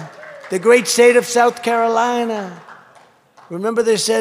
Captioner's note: applause